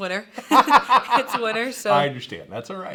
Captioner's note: laughing